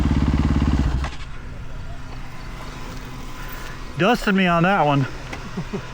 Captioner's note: engine revving